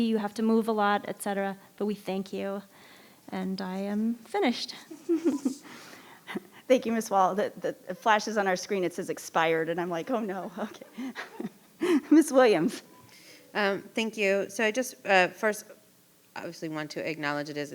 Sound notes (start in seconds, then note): 4.8 chuckles; 9.9 chuckles